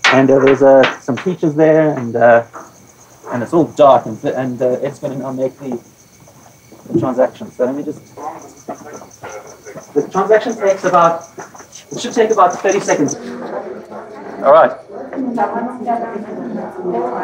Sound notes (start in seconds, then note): 13.5 people chattering